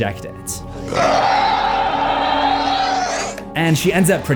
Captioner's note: roar